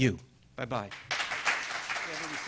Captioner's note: clapping